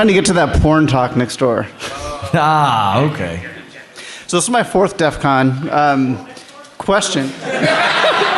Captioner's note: laughter